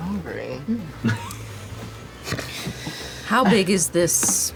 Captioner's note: laughter